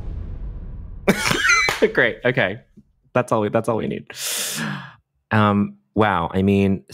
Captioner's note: laughs